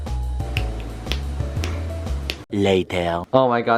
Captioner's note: tap